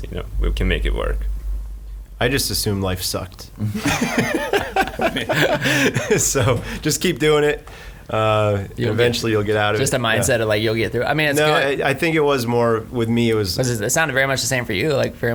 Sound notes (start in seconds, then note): 3.6 laughing